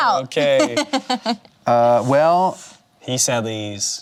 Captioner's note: laughs